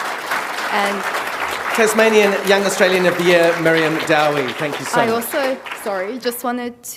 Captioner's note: applause